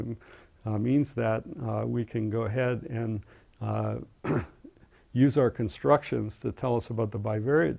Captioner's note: cough